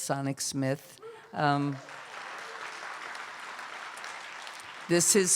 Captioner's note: applause